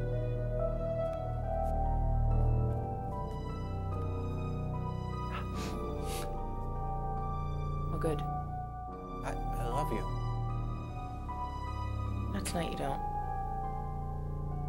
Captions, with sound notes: (Dwight breathes) (Ellen sniffs) - Well good. - I, I love you. - Not tonight you don't.